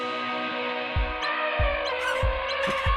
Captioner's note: elephant trumpets; monkeys shriek